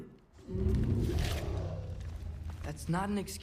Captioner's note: grunt